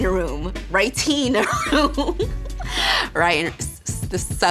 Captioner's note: laughing